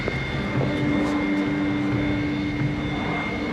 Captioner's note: none